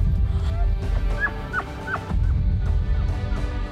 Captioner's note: elk calling